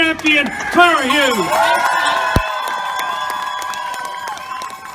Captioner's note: loud cheering and applauding